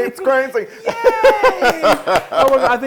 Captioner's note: laugh